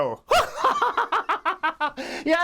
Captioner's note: laughs